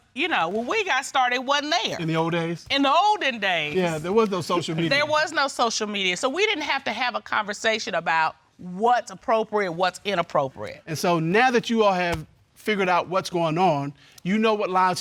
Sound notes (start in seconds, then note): none